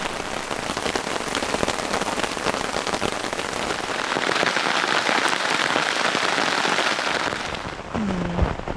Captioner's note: rain